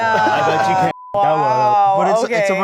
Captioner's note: beep